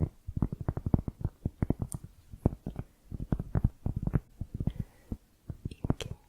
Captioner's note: tapping on cork